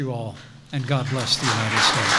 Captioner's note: applause